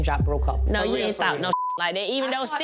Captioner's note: beep